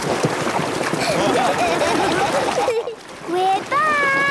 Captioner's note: laughing